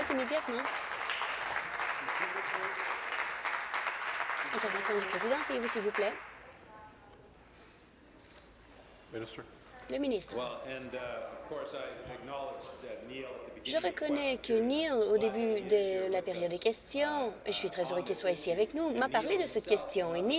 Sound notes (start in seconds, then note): 3.4 applause